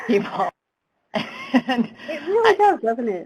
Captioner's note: laughs